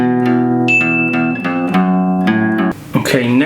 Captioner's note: alarm Sounds